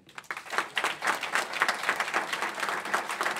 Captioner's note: applause